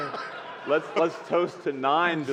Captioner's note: laughter